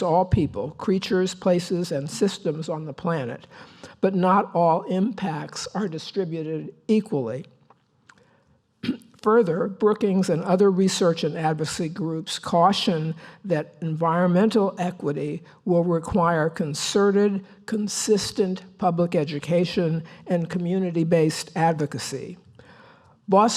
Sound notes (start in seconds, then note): 8.8 cough